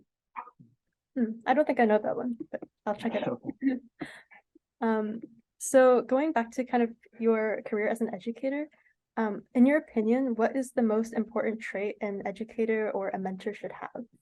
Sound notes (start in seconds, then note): 3.0 laughs